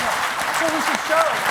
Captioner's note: laughter